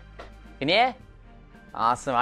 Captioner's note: foreign language